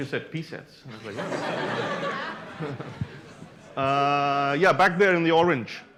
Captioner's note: laughter